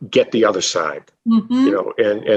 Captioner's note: agreeing